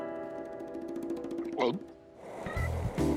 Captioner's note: gulps